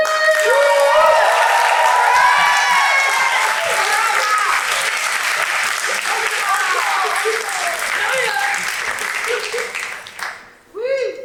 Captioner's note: audience cheers